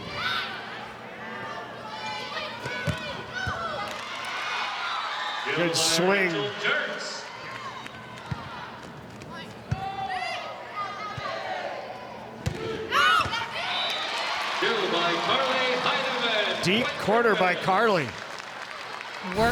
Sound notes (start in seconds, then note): 0.2 players shouting indistinctly; 3.0 ball thumping; 4.0 audience cheering; 8.4 ball thumping; 9.9 players shouting indistinctly; 12.5 ball thumping; 13.8 audience cheering